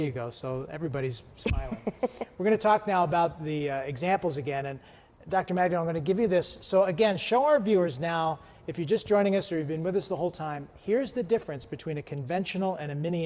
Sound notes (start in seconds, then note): 1.4 laughs